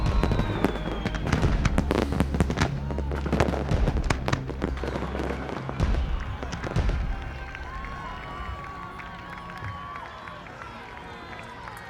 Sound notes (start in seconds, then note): 1.5 fireworks booming; 8.9 crowd cheering